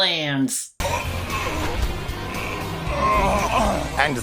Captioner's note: groans and faints